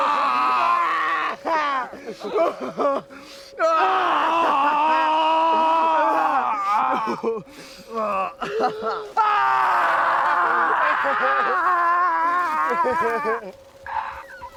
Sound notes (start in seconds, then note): 2.4 laughs; 3.6 screams; 7.9 Robin laughs; 8.7 screams